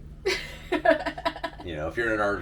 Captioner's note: laughing